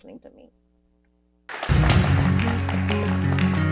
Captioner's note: applause